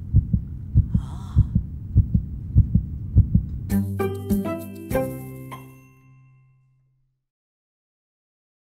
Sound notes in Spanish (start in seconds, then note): 1.7 latidos; 3.7 logo sonoro